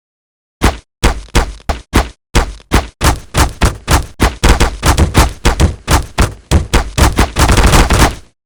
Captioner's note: multiple smashes